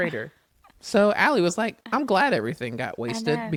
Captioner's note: laughs